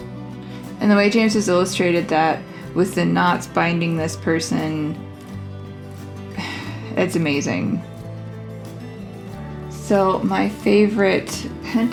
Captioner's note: sigh